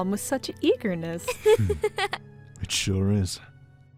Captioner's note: laughs